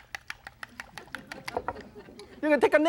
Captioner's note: laughter